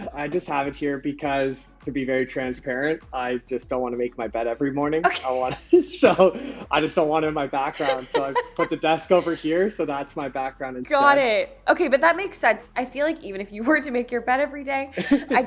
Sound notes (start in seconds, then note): 5.0 laughs